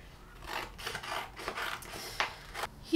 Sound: cutting noise

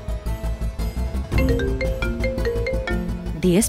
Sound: phone ringing

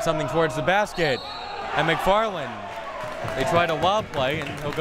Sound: whistle tweeting

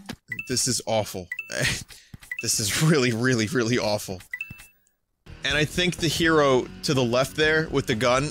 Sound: none

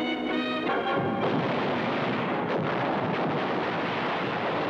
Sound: guns firing

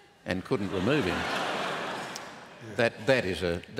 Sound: laughter

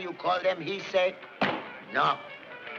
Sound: bangs

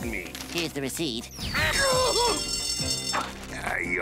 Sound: alarm ringing

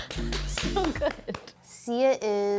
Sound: laughs

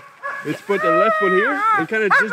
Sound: dog howling

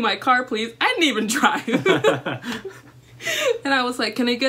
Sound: laughter

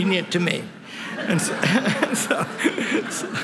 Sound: laughter

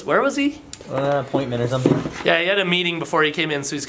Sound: male Voice

